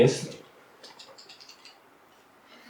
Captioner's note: pointer clicks